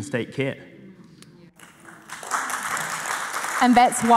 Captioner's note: audience applauding